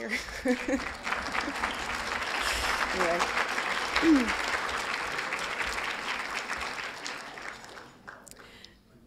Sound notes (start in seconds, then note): 0.2 laughs; 5.2 applause